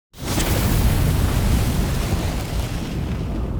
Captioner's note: flames roaring